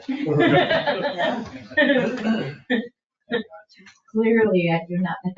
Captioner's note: people laugh